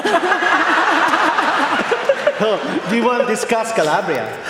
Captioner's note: laughter